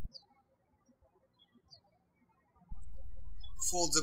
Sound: birds chirping

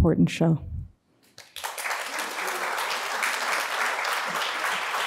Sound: applause

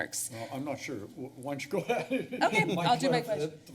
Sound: laugh

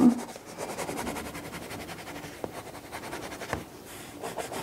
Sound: crayon scrapes

